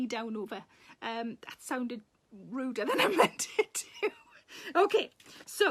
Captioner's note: Sarah laughs